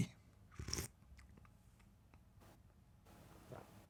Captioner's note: slurps